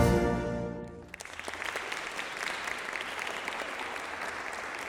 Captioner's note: people applauding